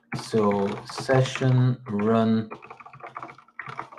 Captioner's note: keyboard clicks